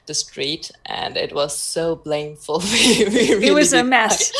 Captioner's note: laughs